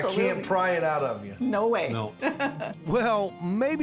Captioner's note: laughing